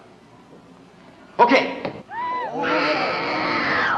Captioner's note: screaming